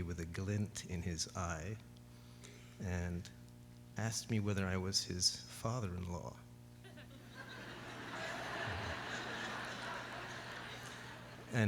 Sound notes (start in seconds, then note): 6.8 laughter